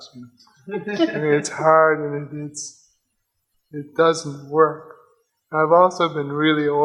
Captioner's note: audience laughs